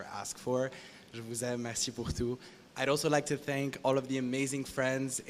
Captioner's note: non-english speech